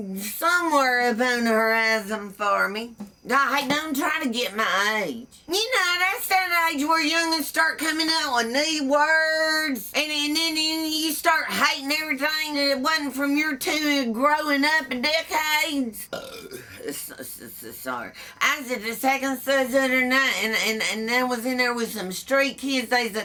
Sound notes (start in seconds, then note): 16.0 burps